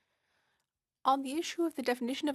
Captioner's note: speaking French